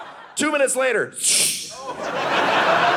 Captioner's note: rocket sound; audience laughing